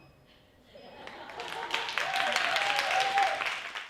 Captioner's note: audience cheers and applause